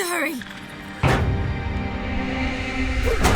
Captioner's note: bang; thud